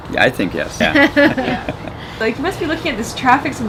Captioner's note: laughing